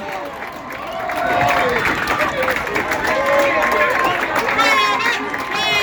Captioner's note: continued applause